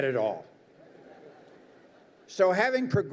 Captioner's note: crowd laughs